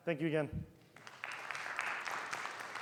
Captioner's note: audience applauding